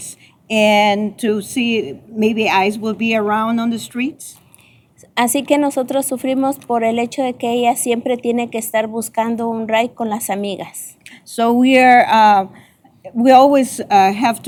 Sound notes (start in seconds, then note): 4.9 speaking spanish